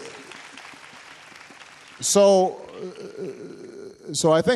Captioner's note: applause